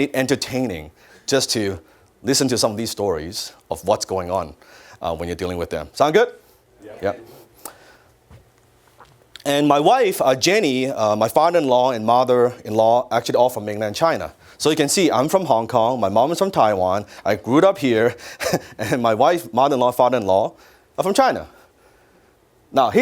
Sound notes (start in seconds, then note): 6.8 audience agrees